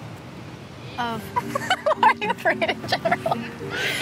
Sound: laughs

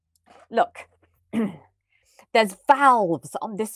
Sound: clears throat

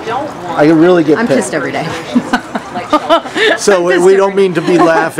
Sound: laughs

